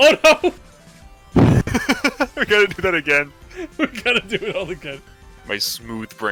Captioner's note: laughs